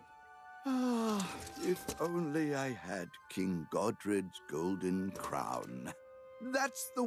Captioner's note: sighs